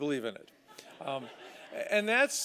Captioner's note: laughter